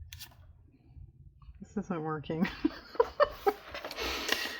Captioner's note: laughs